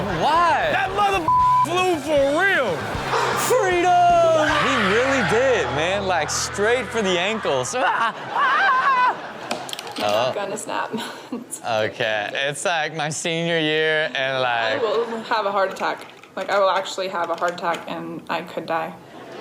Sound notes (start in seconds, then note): 0.5 audience laughs; 1.2 beep; 3.0 women screams in video; 7.9 audience laughs; 7.9 host screams